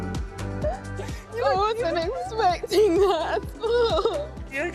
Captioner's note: sobs